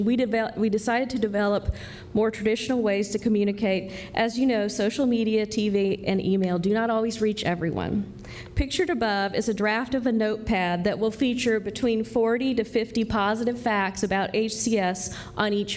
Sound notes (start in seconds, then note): none